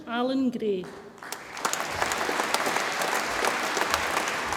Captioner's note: audience applauds